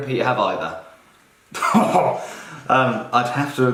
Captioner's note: scoffs